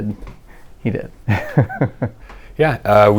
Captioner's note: laughter